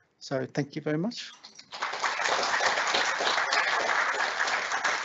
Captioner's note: applause